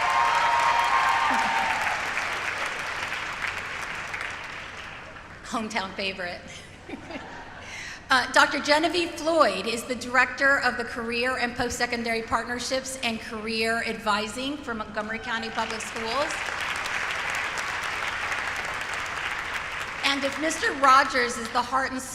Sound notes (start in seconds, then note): 0.0 applause; 3.7 applause; 7.3 cheering